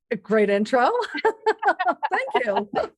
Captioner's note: both laugh